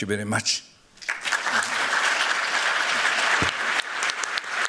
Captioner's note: applause